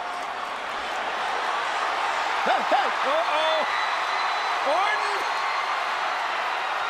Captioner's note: applause